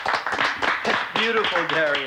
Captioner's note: applauding